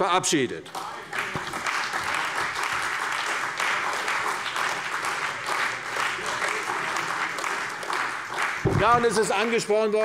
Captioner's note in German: Beifall bei der CDU und dem BÜNDNIS 90/DIE GRÜNEN